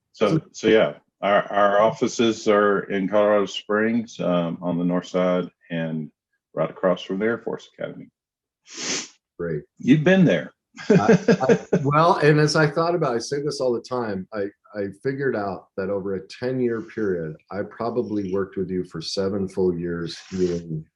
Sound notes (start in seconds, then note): 10.8 laughs